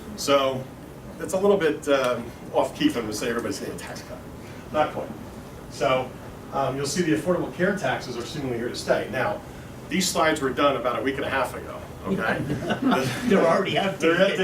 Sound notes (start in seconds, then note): 12.1 laughter